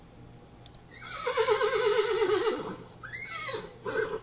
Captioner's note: horse whinnies